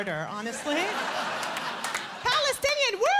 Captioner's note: laughter